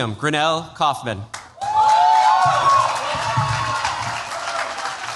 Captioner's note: cheers, applause